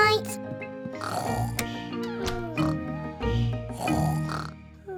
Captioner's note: both snoring